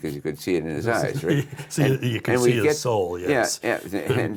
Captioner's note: laughs